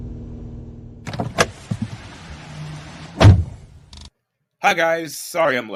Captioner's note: somebody opens the car door & exits the car. They close it & the car drives off